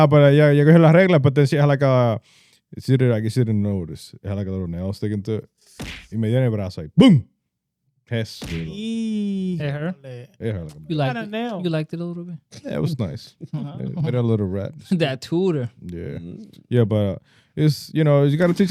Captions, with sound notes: (Speaking Foreign Language) She didn't notice, had like a little nail sticking to it. He made it, but I was like, "Boom!" Hey, her? Hey, her. You like it? You like it a little bit? Yeah, it was nice. Uh-huh. A little rap. That tutor. Yeah, but it's, you know, you gotta teach